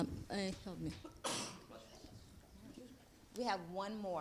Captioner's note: sneezing